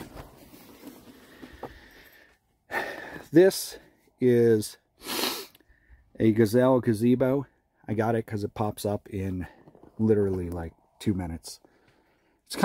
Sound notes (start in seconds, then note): 2.8 breathes audibly; 5.0 sniffs